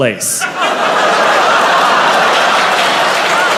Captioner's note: crowd laughs in surprise